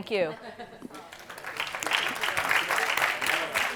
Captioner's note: group applauds